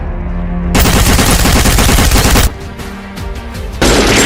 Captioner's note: gunshots banging; rifle banging